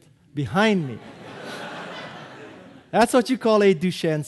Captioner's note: audience laughing